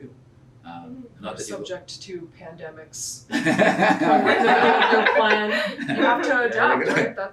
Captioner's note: laughs